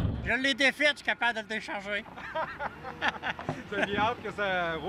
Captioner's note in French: rires